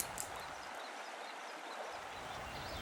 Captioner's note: birds singing